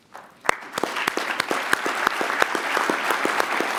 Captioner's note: applause